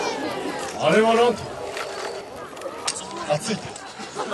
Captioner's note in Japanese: 客 笑・笑・笑